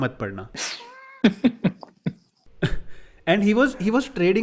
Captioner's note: laughing